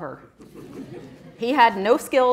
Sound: audience laughing

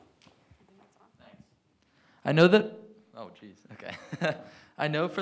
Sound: chuckling

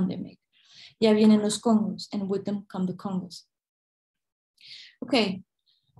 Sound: non-english speech

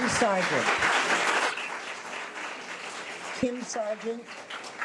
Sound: audience applause

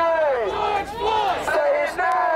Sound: crowd

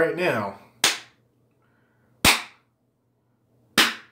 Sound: clapping

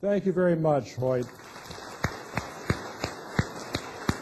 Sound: applause

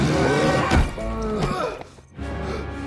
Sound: groans

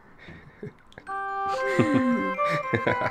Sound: laughing

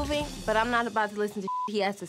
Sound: beep

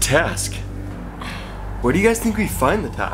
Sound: sigh

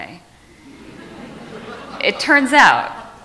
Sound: audience laughs

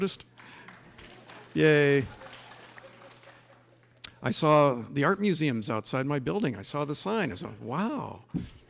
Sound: clapping

